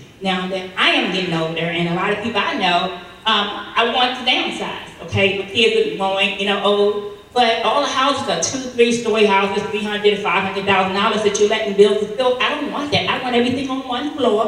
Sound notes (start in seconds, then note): 5.4 speaking faintly